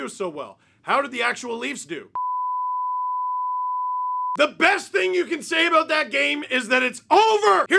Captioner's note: large beeps